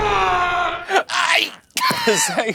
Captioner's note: grunting; laughing